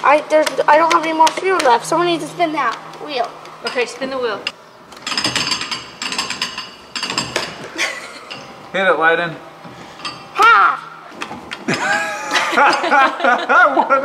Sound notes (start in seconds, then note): 5.1 cranking; 11.6 laughs